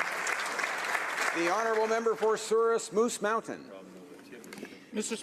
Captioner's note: applause